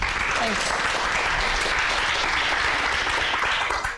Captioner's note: applause